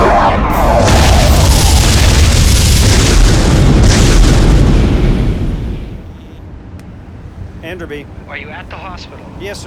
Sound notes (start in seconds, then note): 6.2 cell phone rings